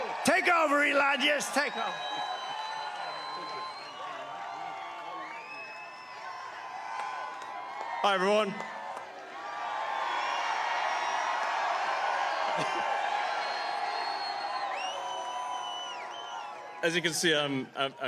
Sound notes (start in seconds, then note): 12.1 cheering; 12.4 applause